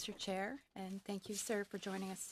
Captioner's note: speaking French